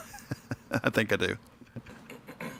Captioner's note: laughing